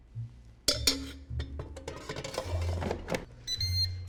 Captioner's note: clanging; airfryer beeps